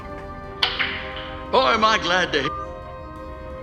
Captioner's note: phone